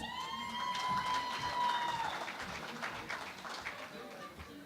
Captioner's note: cheering and Applause